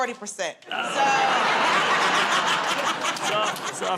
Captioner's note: laughter